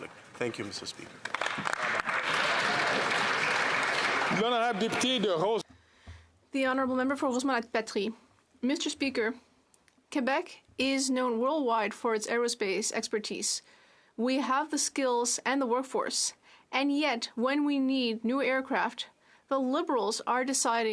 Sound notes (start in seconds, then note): 5.1 applause; 8.9 speaking French